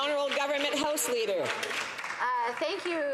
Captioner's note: some Applause